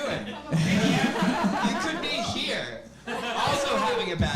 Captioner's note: audience laughing